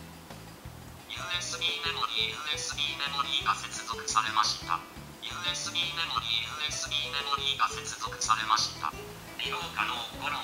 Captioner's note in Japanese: 機器の声